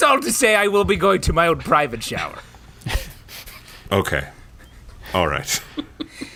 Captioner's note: laughs